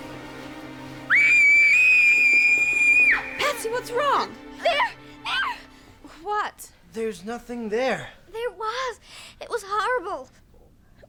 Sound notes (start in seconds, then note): 1.1 screams